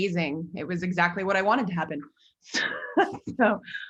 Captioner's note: laughs